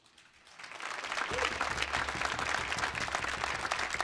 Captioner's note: audience applauds